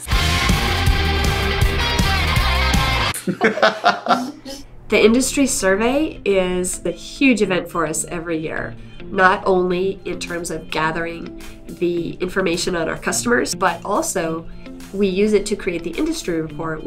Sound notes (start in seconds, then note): 0.0 instrumental rock music; 3.2 laughter